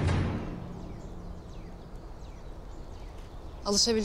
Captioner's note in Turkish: Kuş cıvıltıları